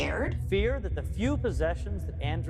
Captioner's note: soundbite of archived recording